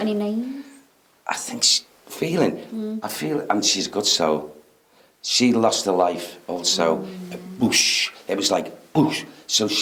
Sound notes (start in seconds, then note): 6.7 blowing